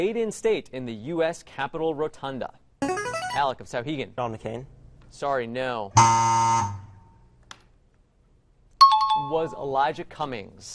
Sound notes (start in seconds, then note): 2.1 player buzzer; 6.0 error buzzer; 7.8 timer bell rings